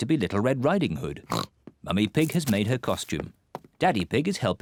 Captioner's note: oinks